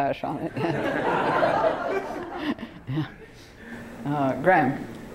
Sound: laughter

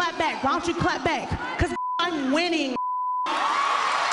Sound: cheers and applause

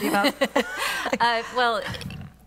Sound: laughter

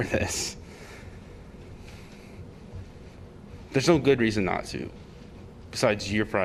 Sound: laughter

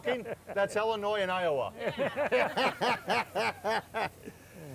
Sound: laughter

